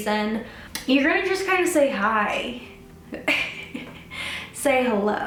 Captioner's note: laughs